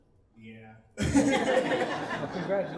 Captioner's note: laughing